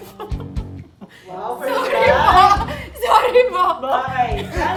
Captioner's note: laughing